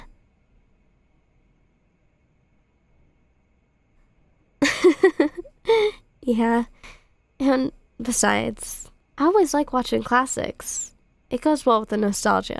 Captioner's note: soft laugh